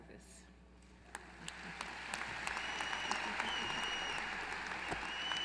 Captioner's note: applause